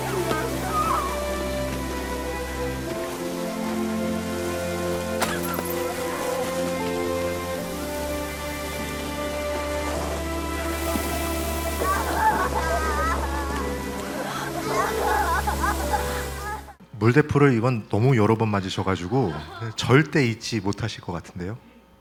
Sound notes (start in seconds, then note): 0.7 Yoo-jin groaning in pain; 5.2 sound of glass shattering; 11.8 Yeon-du and Yoo-ri wailing in anguish